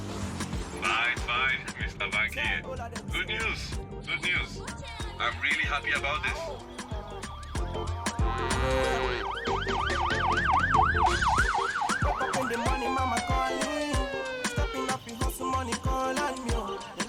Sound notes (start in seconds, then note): 6.2 cow moos; 8.1 siren blaring